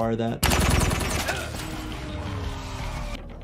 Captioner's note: gunfire